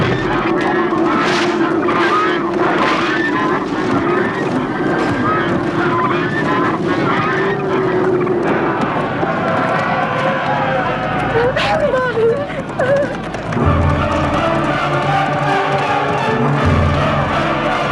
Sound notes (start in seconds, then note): 0.5 geese squawking; 9.1 men shouting; 11.3 whimpering; 13.1 dramatic music